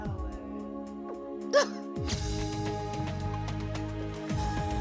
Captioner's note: crying